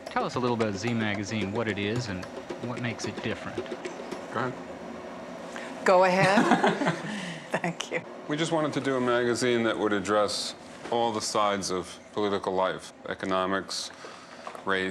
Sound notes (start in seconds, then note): 6.2 laughing